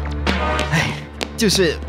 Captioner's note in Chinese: 埋怨声